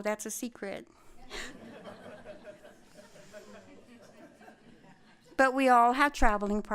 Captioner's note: laughter